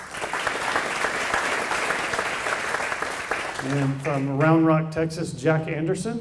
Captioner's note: applause